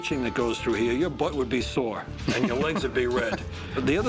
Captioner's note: laughs